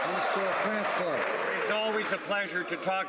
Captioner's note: some Applause